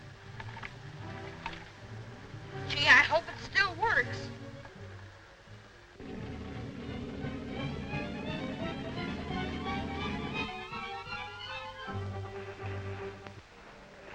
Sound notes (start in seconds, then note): 6.0 motor running; 6.0 exciting music